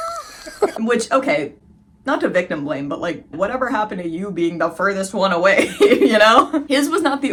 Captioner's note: laughing; laughing